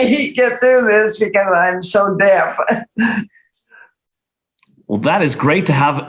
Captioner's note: chuckles